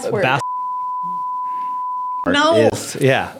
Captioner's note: beep